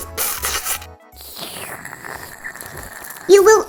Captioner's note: slurping, crunching, munching popcorn